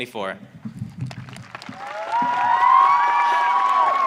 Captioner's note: audience cheering